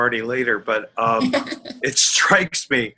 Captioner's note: chuckling